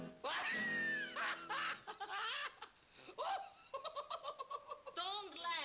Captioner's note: hysterically laughing